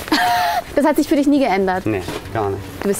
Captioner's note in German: Lachen